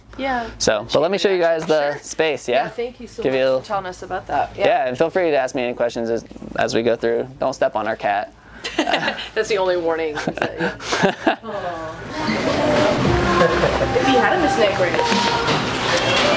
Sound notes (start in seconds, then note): 10.2 laughs